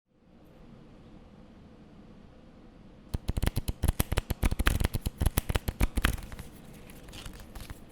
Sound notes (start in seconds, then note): 3.1 page flips